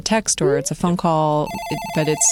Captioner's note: phone rings